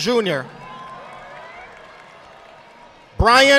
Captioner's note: audience applauding